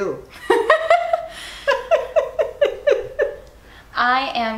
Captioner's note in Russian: Обе смеются